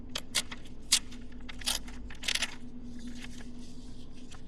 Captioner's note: perforated paper tearing